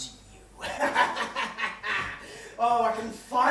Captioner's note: evil laugh